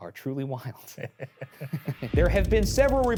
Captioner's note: chuckles